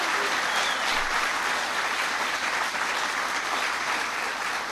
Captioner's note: applause